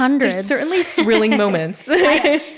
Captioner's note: laughter